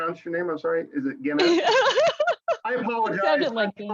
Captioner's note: laughs